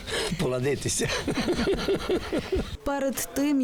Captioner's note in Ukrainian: Сміється